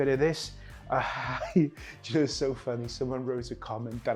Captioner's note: laughs